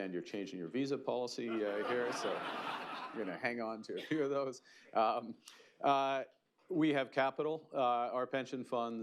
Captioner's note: laughter